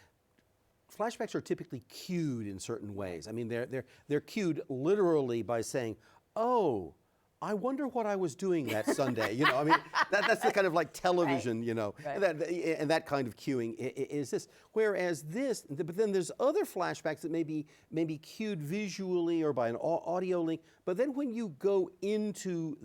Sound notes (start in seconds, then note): 8.6 laughing